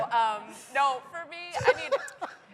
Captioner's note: laughter